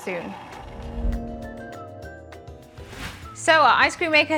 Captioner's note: screen chimes